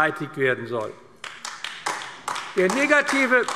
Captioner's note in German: Beifall AfD